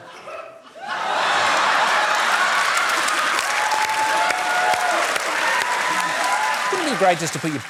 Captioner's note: cheering, applause